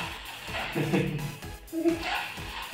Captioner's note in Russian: Смех